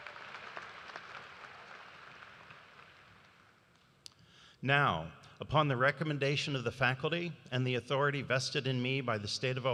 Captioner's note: cheers and applause